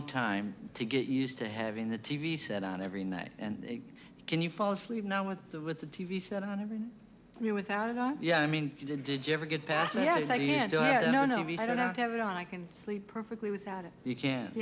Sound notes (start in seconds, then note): none